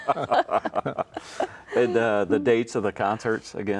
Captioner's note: chuckling